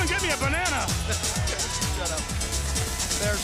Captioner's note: laugh